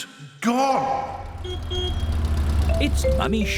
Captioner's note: horn honks